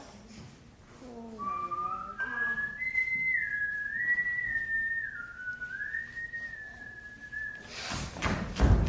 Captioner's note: siren's Whistle